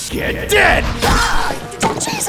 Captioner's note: manly screaming